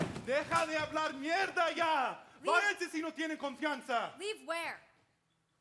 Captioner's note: speaks in Spanish